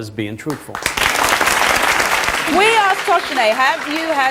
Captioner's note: audience applauds